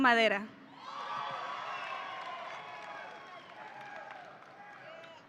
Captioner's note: audience cheering